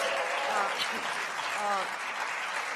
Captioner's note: cheers